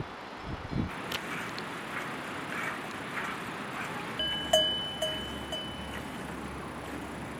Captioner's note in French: bruits de traite, de torrents et de cloches